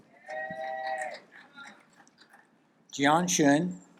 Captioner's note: audience applaud